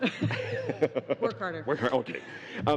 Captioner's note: chuckling